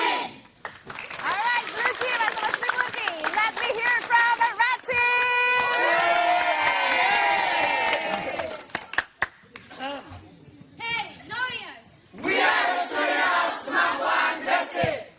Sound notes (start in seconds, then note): 0.0 applause; 5.0 cheering